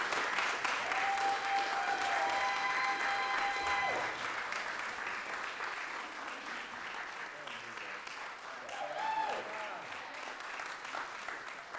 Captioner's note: applause, cheering